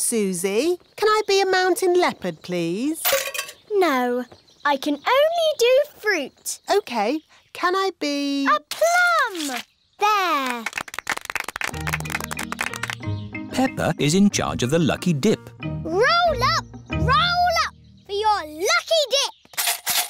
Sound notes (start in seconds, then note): 10.4 applause